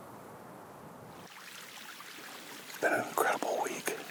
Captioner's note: water gurgles